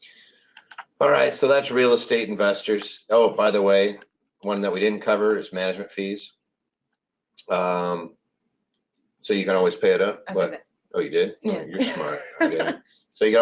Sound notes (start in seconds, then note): 11.5 laughs